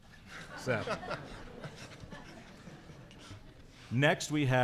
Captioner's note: chuckling